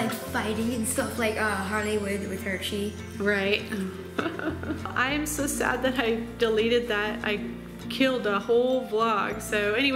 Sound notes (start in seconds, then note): 3.8 laughs